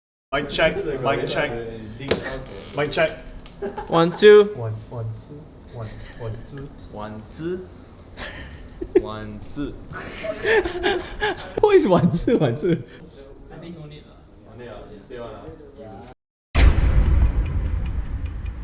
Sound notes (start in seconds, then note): 9.9 everyone started laughing